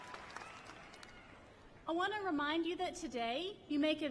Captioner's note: cheers and applause